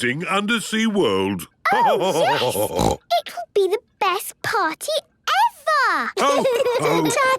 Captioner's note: laughter and snorting; laughter